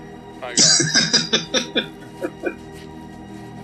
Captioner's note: laughing